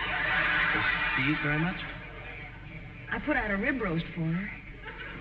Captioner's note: audience laughing